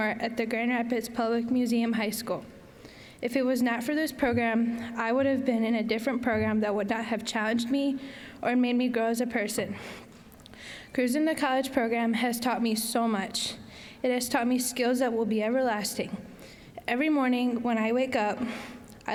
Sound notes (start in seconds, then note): none